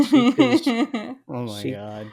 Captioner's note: laughing; laughs